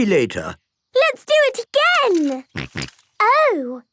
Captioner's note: snorting